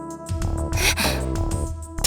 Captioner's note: gasp